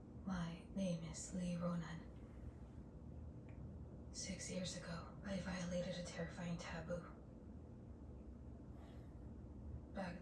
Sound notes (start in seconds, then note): none